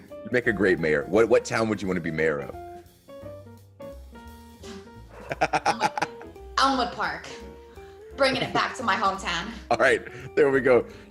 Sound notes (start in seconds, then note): 5.1 laugh